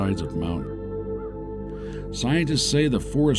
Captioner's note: bird cawing